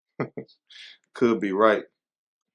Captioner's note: laughing